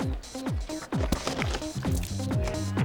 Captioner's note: spilling sounds